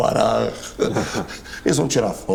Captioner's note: laughs